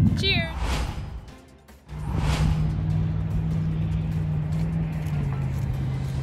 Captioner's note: upbeat music; logo whooshing